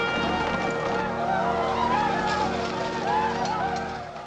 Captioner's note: war cries